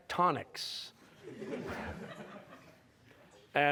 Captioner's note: laughter